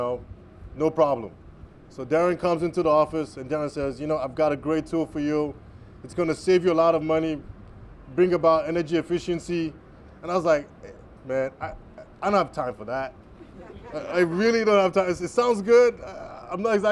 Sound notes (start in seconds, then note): 13.4 laughter